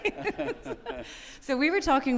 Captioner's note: laughing